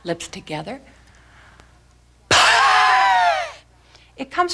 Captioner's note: breathing